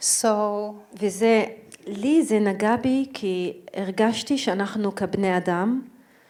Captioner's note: speaking in foreign language